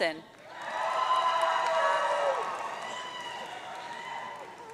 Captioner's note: audience cheering